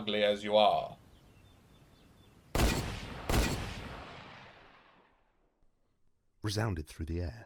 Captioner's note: 2 gunshot sfx